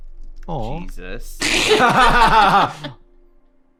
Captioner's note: laugh